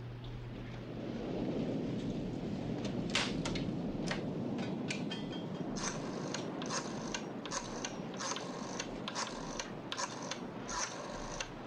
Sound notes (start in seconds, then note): 5.5 phone rattles